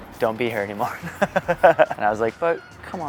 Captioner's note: laughing